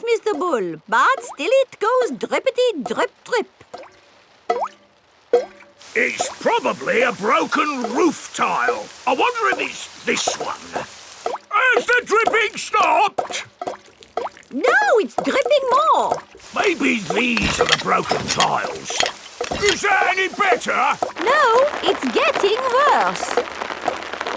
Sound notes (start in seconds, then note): 5.1 water dripping